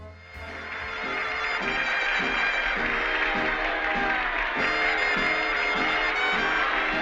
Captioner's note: upbeat music; audience cheers and applauds